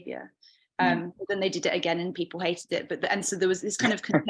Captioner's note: chuckling